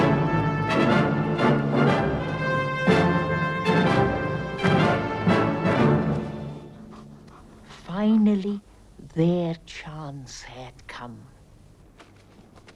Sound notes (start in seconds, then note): 6.6 Beast panting